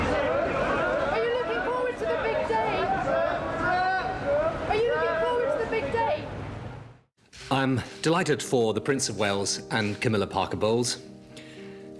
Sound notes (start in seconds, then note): 2.6 journalists clamoring